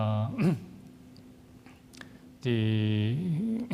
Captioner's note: coughs